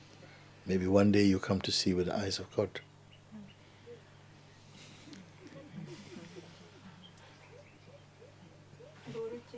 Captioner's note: laughter